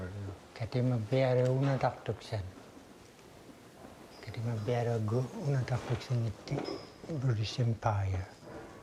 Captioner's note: speaking Inuit